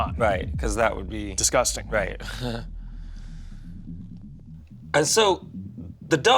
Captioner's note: chuckles